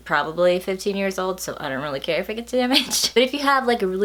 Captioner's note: laughs